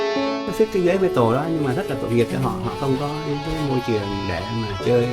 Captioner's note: speaking foreign language